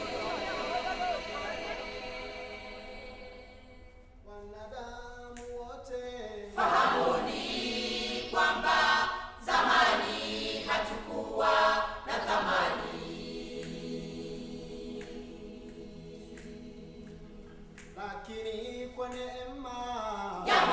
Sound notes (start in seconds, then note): 3.8 man calling in song; 6.5 group responding in song; 13.0 rhythmic snapping; 17.9 man calling in song